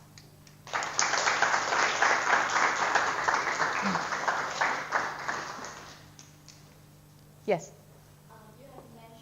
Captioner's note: audience applause